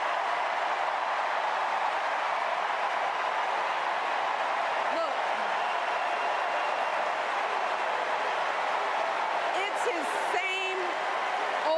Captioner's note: cheers and applause